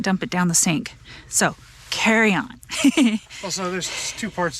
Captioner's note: laughs